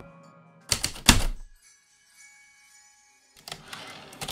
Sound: typewriter keystrokes, return slide

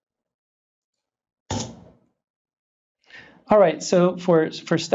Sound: keyboard clicks

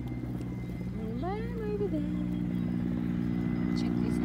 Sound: humming noise

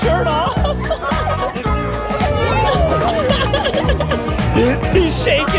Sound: laughing

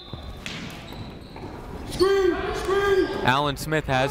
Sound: whistle blowing

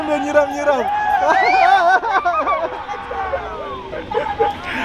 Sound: clap

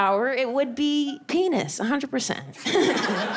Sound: laughs

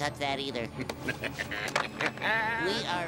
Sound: laughing maniacally

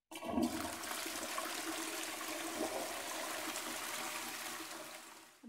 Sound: flushing

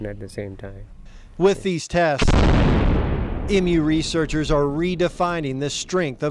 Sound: explosion

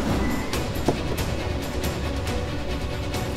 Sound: car door opens

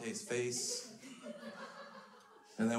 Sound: crowd laughs

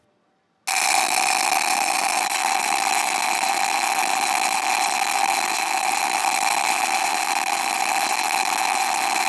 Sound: loud popping noise

